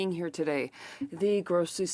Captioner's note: speaking French